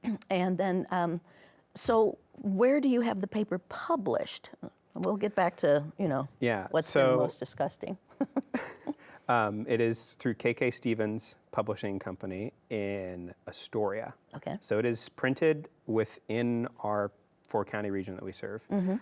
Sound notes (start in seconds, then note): 8.2 chuckles